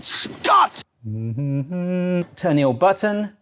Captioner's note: hums